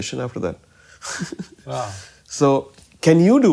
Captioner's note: laughter